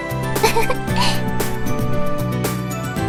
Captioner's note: giggles